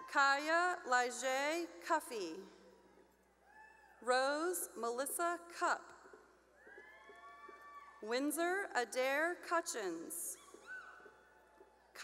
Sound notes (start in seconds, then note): 3.5 cheering; 6.6 cheering; 10.7 cheering